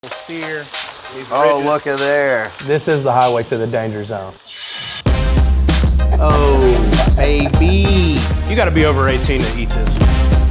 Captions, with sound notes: (food sizzling) - This sear, these ridges. - Oh, looka there. - This is the highway to the danger zone. (dramatic upbeat music) - Oh, A.B. - You gotta be over 18 to eat this.